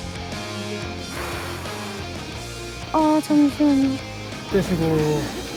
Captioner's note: taking a deep breath